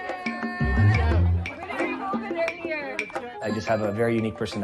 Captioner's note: overlapping chatter